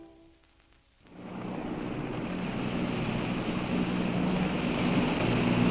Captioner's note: distant boat engine hums